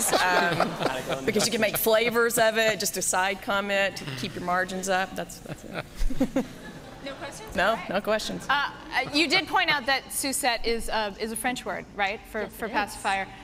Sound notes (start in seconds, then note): 5.3 laughing